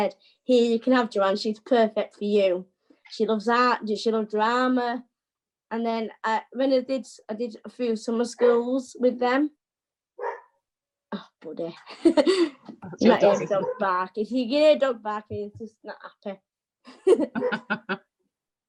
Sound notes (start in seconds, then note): 10.2 dog barks; 11.8 chuckles